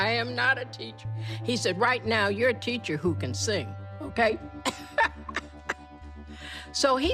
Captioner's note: laughter